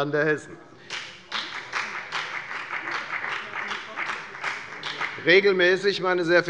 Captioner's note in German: Beifall bei der FDP